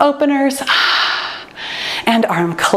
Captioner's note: sighs